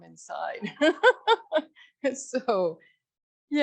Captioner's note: laughs